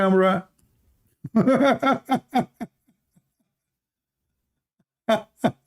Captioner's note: Ketawa